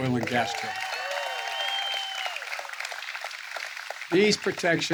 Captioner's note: applause